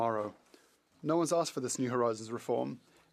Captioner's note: speaking French